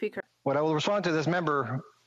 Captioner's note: speaking French